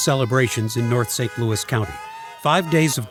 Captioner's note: horns honking; people cheering